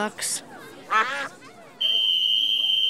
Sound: quacking

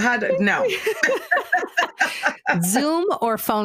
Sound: laughing

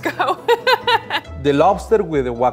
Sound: laughing

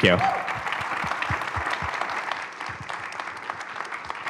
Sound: applause

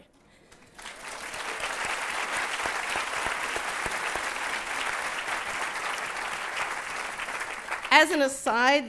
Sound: applause

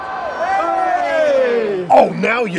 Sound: crowd cheering loudly

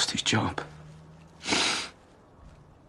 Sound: Aaron sniffles

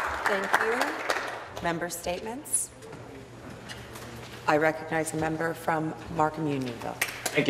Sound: applause

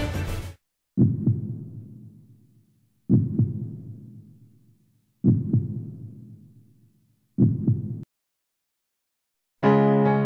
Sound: heart thumping

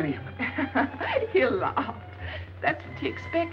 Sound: laughing

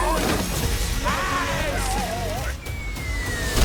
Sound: screaming

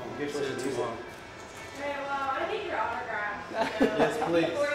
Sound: people talking

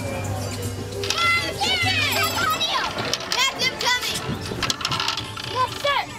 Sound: children shouting

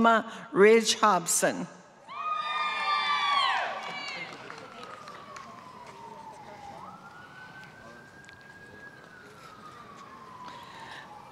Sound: applause

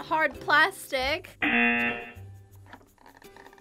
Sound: buzzer rings

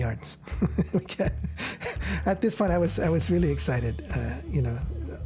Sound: laughs

